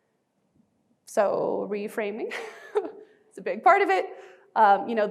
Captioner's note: chuckling